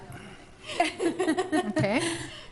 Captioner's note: laughs